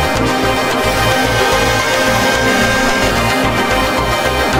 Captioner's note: hydraulics